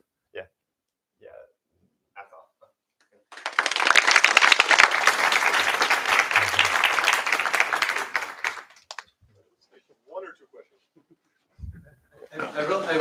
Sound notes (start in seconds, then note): 3.3 applause